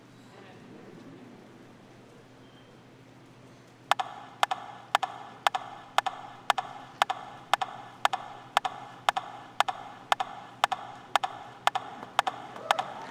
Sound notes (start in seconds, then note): 5.5 rhythmic tapping